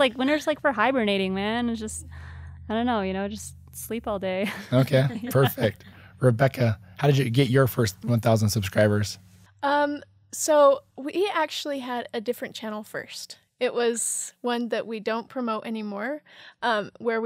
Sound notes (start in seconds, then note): 4.6 laughing